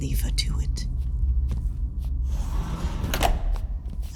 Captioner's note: door opening, footsteps